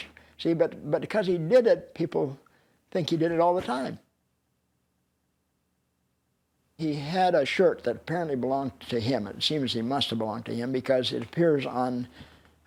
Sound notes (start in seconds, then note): none